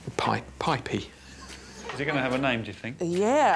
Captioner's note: chuckles